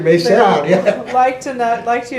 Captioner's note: laughter